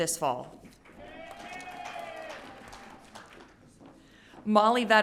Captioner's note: audience cheering